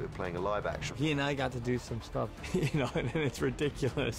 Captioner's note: laughs